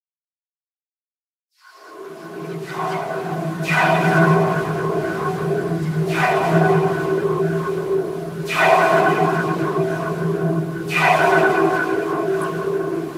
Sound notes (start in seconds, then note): 0.0 alien soundscape